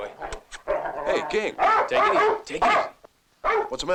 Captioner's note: smacks lips